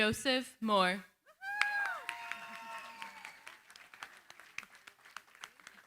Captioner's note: cheering, applause